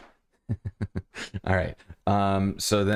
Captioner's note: laughter